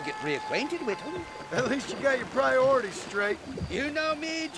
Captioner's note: laughing